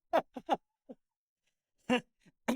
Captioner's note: laughter